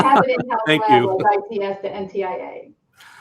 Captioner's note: laughs